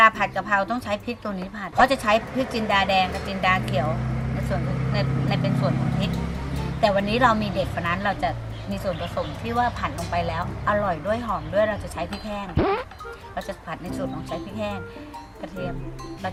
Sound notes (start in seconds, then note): none